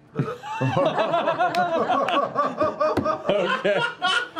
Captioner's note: laughter